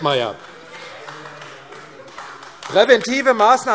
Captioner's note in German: Beifall AfD - Zurufe BÜNDNIS 90/DIE GRÜNEN und CDU